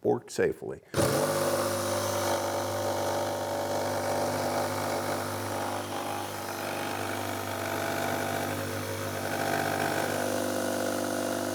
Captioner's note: jigsaw sawing